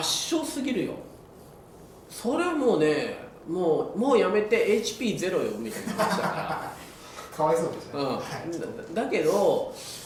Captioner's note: laughs